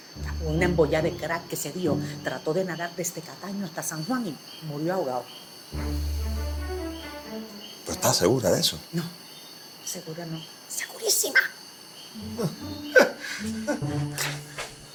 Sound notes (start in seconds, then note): 12.3 laughs relieved